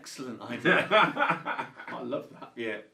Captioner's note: laughs